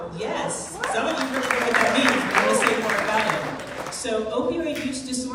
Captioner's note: crowd cheering drowning out speaker